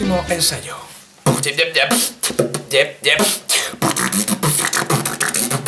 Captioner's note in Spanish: beatbox